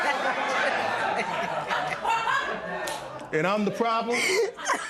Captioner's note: laughter